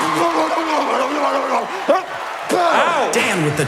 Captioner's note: choking noises